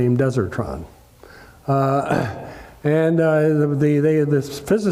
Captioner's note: cough